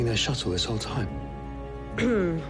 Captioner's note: clears throat